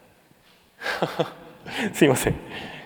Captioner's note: chuckles